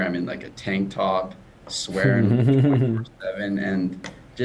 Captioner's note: chuckling